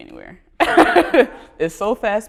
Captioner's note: laughter